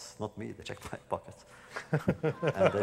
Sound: laughter

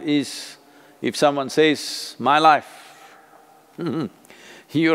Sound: laughs

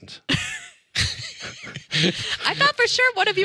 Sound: all laughing

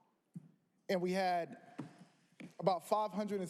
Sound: none

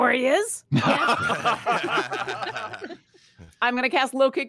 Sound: all laugh

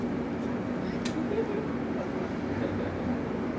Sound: giggles

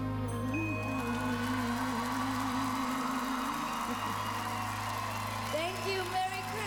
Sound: cheers and applause

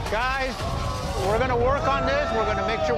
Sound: boos

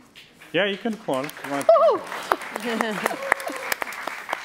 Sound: applause

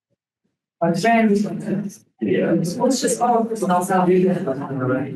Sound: people chattering indistinctly

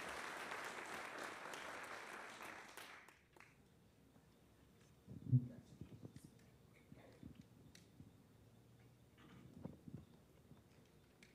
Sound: applause

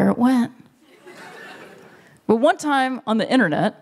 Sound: laughter

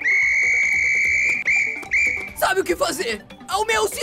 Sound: whistles

